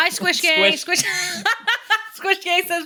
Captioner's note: laughs